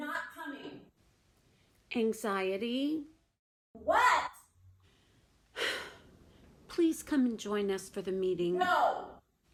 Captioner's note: heavy sigh